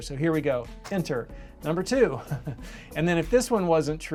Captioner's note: laughs